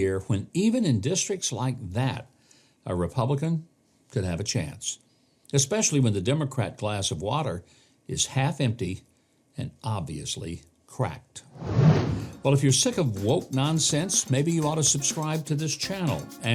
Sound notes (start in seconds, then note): 11.5 air whooshes